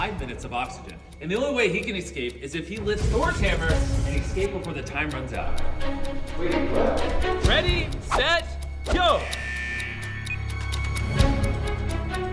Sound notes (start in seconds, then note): 5.6 clock ticking; 9.3 buzzer, beeps